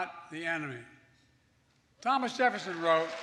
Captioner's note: applause